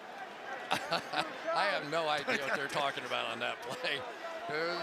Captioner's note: laughing